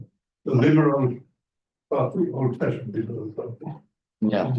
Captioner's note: chattering